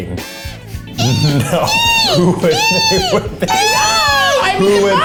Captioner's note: squeaking